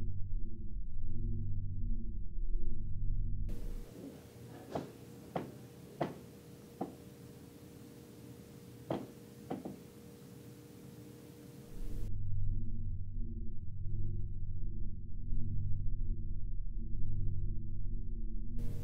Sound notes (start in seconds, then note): 5.4 knocking